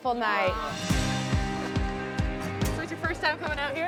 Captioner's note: group chattering; slow rock music